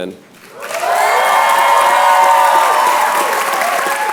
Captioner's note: cheers and applause